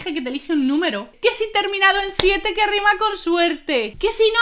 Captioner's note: in Spanish